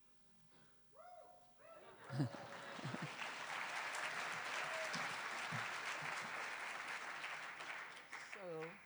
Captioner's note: cheers and applause